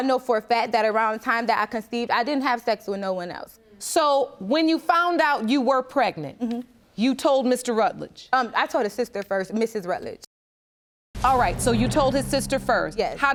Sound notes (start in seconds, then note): none